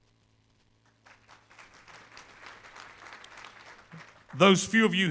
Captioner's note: applause